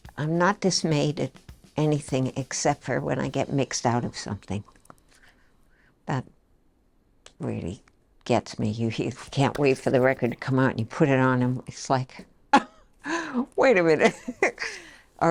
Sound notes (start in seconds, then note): 13.0 scoffs; 14.0 chuckles